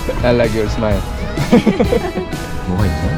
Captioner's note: addictive laughter